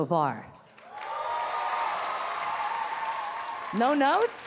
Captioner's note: audience cheering